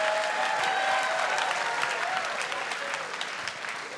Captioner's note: laughter and applause; audience cheers